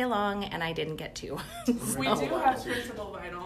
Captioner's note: laughs